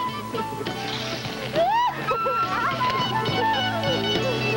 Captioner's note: she shrieks with laughter